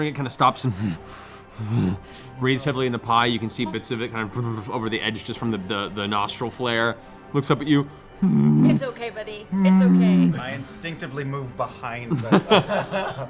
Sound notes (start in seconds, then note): 0.7 pants; 9.5 distressed growl